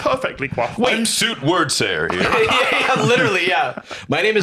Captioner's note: laughing